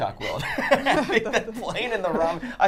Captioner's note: all laughing